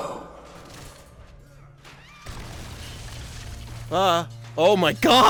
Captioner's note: yelling and a BIG SMASH